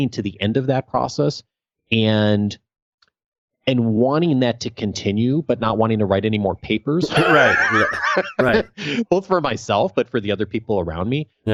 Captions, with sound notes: to the end of that process and wanting that to continue, but not wanting to write any more papers. (laughs) Both for myself, but for the other people around me.